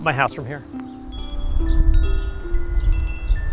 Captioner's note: chiming